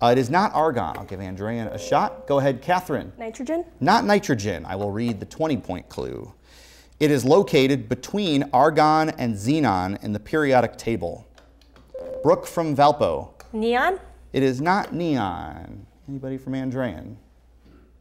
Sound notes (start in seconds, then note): 1.4 beeping; 11.9 beeping